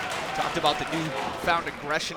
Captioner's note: applause